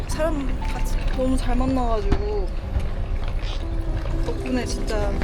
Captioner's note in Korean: 아쉬움에 횡설수설